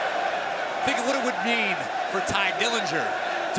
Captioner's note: crowd cheering